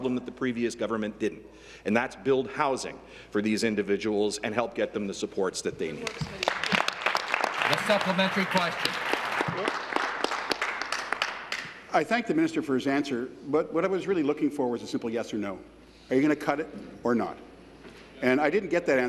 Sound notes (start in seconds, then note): 10.5 applause